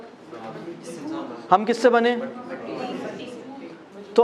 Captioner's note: voices from the audience